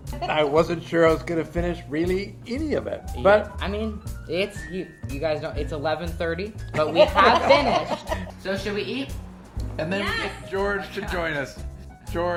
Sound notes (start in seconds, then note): 6.8 everyone laughing